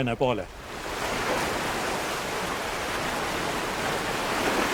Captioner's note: sound of waves